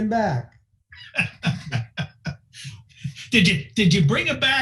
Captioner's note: laughing